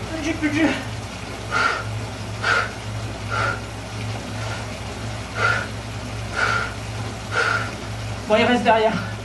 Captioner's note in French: soufflements